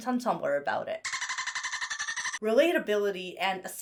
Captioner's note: dolphin chitters